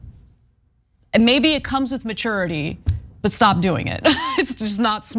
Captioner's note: laugh